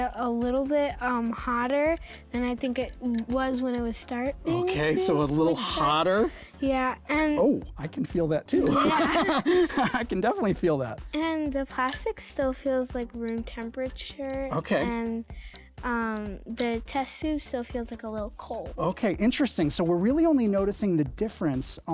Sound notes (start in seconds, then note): 8.5 laughs